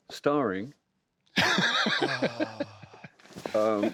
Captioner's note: laughs